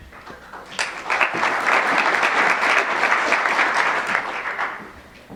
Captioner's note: applause